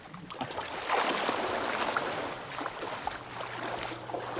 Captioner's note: water splashes